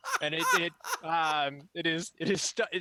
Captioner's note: laughter